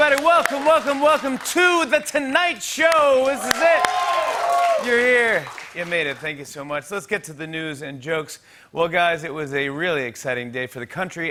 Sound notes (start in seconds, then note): 2.9 cheers and applause